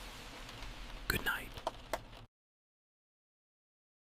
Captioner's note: whispers